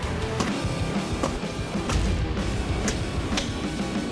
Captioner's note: whacking